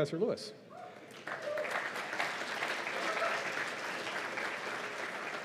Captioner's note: cheers and applause